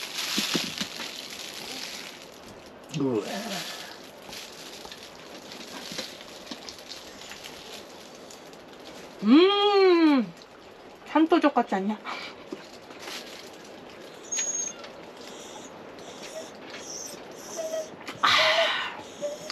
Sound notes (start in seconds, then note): 15.2 Hodu making sounds because he want to eat meat